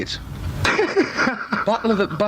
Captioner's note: interviewer laughing